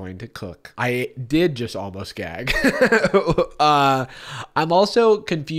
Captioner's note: laughs